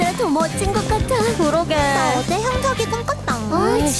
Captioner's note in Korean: 혀 짧은 소리로